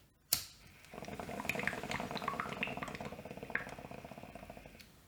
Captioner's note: bubbling noise from bong